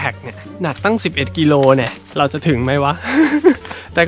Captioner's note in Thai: ขำ